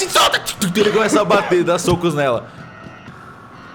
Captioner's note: laughing